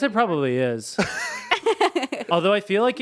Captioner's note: laughing